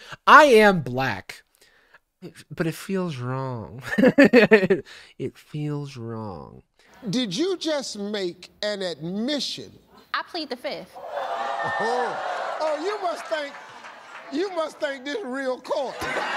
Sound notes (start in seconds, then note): 4.2 laughs; 11.0 audience clamoring